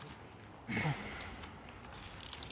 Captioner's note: groan